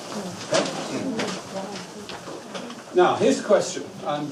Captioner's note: papers rustling